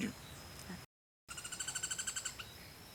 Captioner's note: bird calling